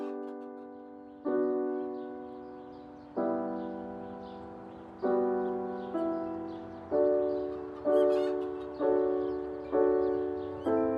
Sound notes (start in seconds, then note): 0.0 chickens squawking; 2.3 birds chirping; 6.2 chickens clucking